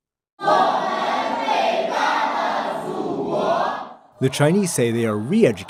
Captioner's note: speaking foreign language